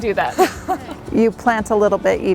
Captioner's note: laughs loudly